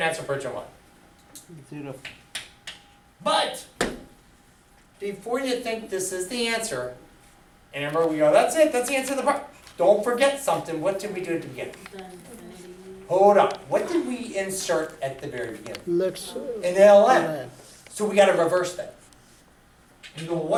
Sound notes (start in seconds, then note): 2.1 voiceover; 12.1 student speaks softly